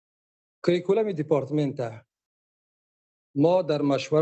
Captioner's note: speaking dari